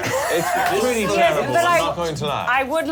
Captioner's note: laughter